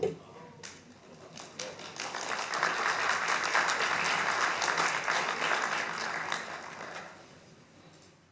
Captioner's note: applause